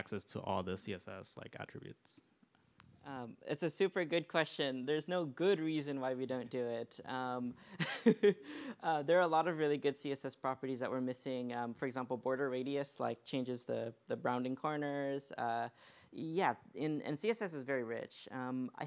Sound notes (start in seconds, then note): 7.7 laughs